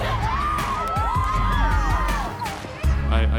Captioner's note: group cheering